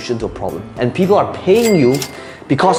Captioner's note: cash register ringing